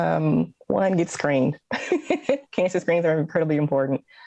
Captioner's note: laughs